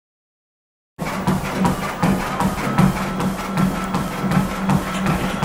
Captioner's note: footsteps thud